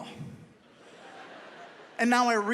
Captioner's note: audience laughs